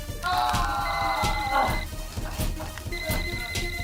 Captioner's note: crunching sound of back; fast paced action music continues